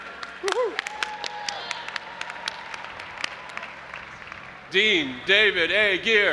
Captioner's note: audience applauding and cheering